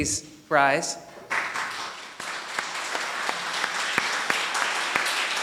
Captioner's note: audience applauding